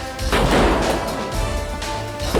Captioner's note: guns firing